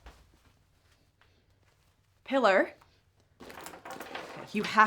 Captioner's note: footsteps approaching